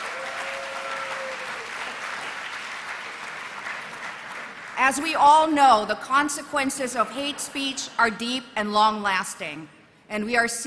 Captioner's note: applause